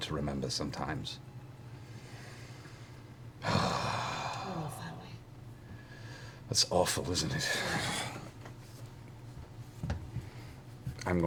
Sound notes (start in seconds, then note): 3.4 sighs; 4.5 quietly; 10.2 sighs